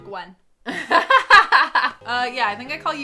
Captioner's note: laughing